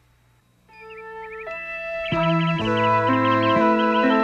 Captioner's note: birds chirping